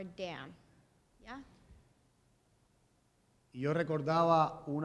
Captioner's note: speaking in Spanish